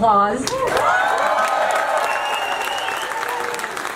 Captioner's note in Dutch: groot applaus